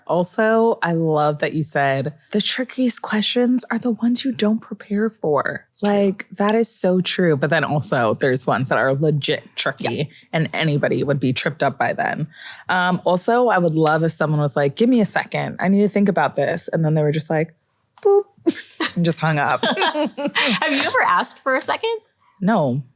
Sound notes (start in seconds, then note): 19.4 laughter